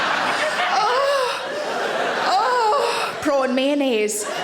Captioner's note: audience laughing; Sarah moaning